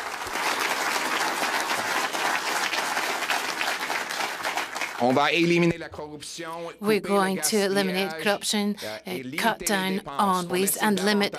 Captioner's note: applause